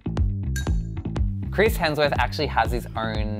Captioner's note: voiceover